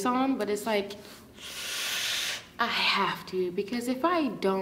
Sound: sucks teeth

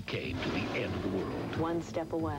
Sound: missile launches

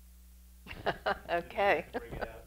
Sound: laughing

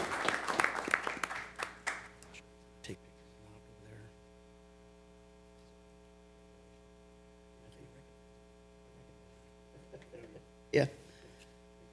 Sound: applause

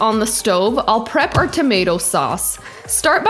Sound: fist thumps

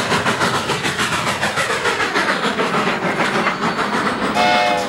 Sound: train chugging

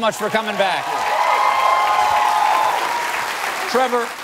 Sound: cheers

